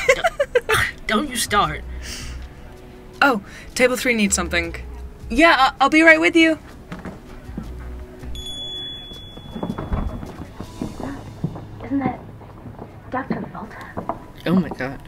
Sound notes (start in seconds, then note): 6.3 sound: footsteps retreat; 8.4 sound: bell rings above door, footsteps enter, plus dog footsteps